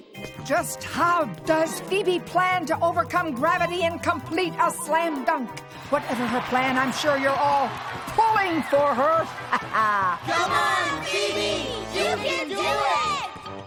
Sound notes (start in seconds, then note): 9.0 laughs